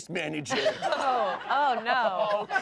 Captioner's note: everyone laughs